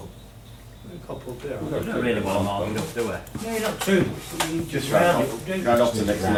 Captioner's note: general chatter